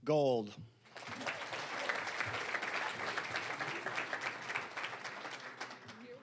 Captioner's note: applause